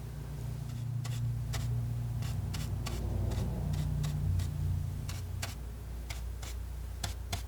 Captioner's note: scratching